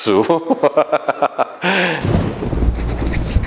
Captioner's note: laughing hardx5